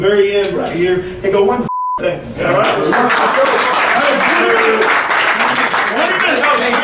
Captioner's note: clapping